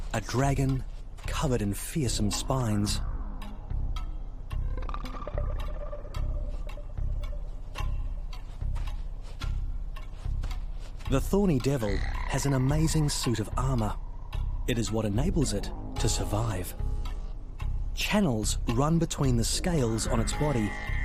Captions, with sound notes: a dragon covered in fearsome spines. (feet scratching) The thorny devil has an amazing suit of armor, it is what enables it to survive. Channels run between the scales on its body,